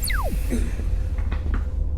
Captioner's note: device beeping; eerie atmospheric music